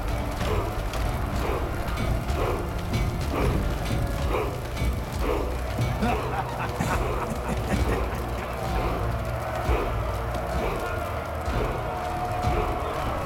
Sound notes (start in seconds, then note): 5.9 laughs